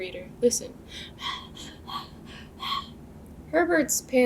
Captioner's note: loud panting